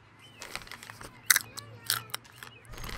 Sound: chewing

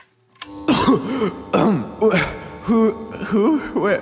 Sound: cough

